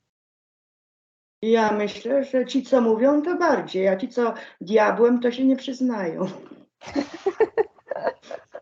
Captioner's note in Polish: śmiech